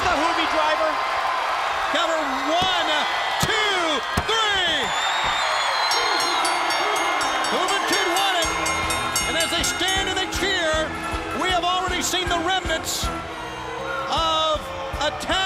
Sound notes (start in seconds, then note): 4.5 crowd cheering; 5.7 bell ringing